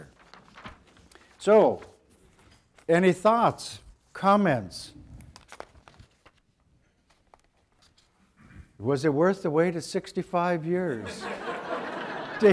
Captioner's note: audience laughter